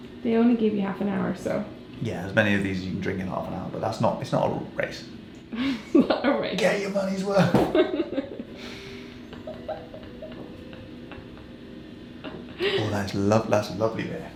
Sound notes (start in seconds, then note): 9.2 both laughing